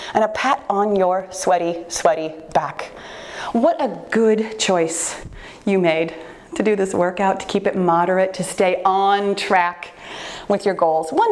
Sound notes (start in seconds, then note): none